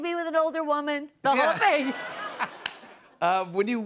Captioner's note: laughter